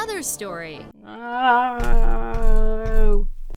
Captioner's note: Emma groans